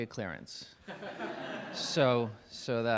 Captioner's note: laughing